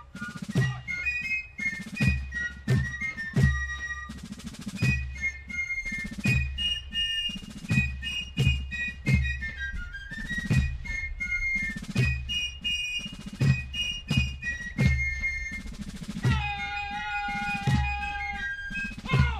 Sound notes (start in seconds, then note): 13.5 soldier shouting commands